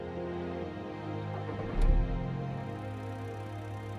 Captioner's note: car engine starting